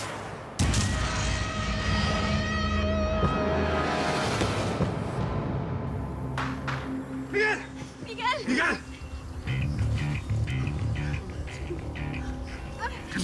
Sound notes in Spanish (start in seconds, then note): 0.0 Disparo